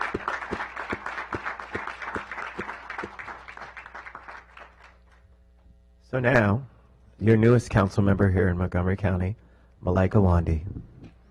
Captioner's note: applause